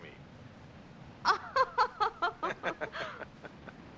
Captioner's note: both laugh